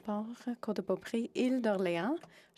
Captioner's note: speaking French